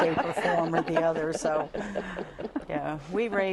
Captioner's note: laughter